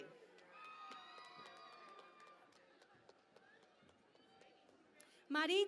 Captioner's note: cheering and Applause